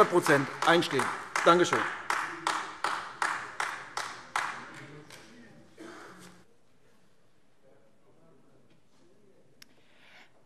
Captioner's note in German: Beifall AfD